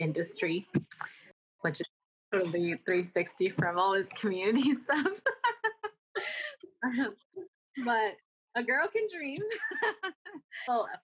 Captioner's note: laughter